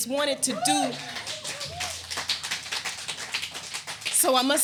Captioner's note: audience applauding